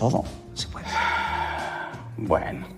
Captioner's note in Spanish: Suspiro